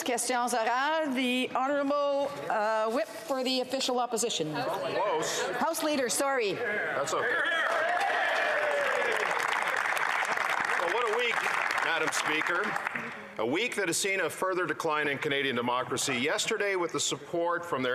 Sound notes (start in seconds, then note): 3.0 speaking French; 10.5 some Applause